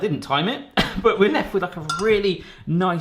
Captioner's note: laughing